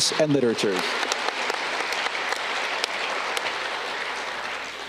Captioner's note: audience clapping